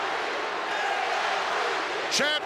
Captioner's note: crowd chants "JYD"